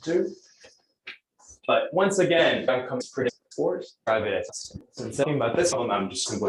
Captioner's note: distorted speech